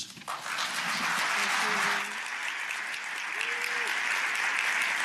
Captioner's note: applause